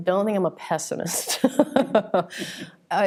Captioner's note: laughs